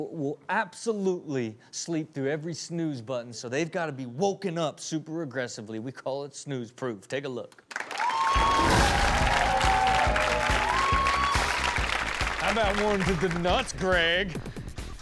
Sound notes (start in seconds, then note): 7.7 audience applauds